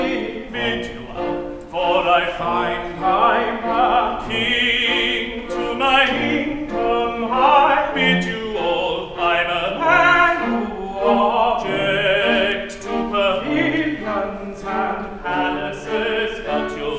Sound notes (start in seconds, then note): none